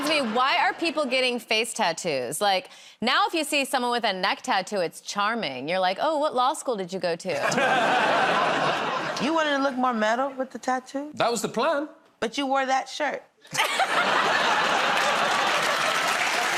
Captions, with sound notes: -That reminds me. Why are people getting face tattoos? Like, now if you see someone with a neck tattoo, it's charming. You're like, "Oh, what law school did you go to?" [ Laughter ] -You want to look more metal with the tattoos? -That was the plan. -But you wore that shirt. [ Laughter ]